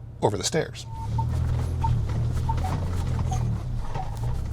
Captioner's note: engine whirring